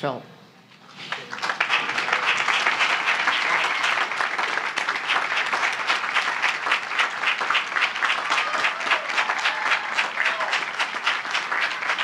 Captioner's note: applause; cheering